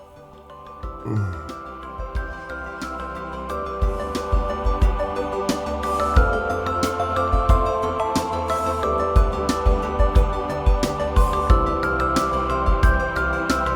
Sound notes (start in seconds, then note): 0.9 groans; 1.6 upbeat music